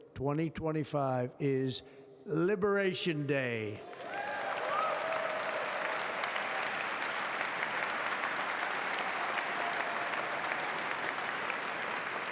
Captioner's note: applause